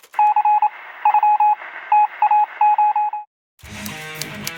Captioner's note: morse code signalling